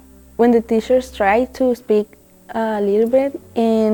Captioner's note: Spanish